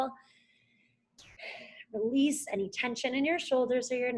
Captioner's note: exhales